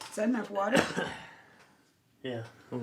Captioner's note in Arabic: السعال